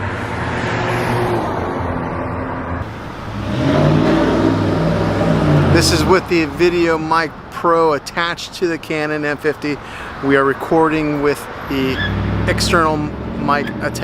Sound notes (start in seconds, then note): 0.0 traffic whizzing; 3.5 truck engine roaring